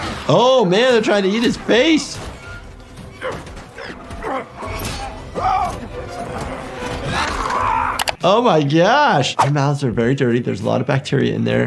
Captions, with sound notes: Oh man, they're trying to eat his face. (man grunts again) (man screams) Oh my gosh! Mouths are very dirty. There's a lot of bacteria in there